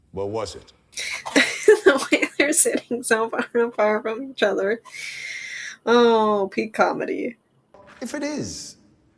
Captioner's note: through laughter